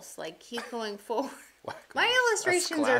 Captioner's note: chuckles